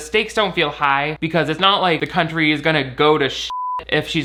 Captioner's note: beep